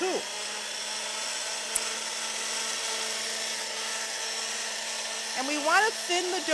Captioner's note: motor whirring